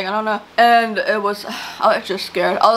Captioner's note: sighs